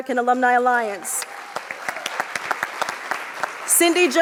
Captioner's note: audience applauds